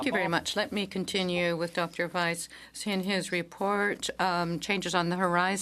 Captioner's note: speaking French